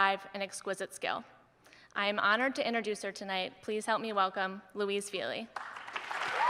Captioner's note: audience members cheer and applaud